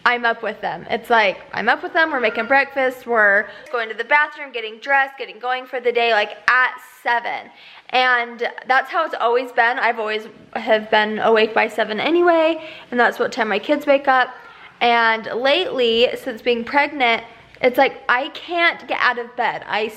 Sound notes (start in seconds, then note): none